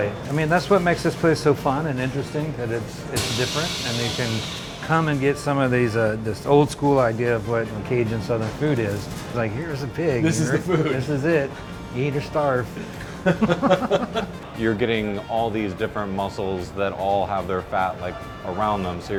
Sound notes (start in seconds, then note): 12.8 chuckles